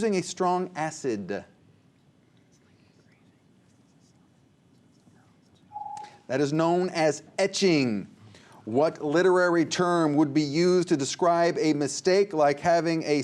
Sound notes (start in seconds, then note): 2.7 whispers; 5.7 ringing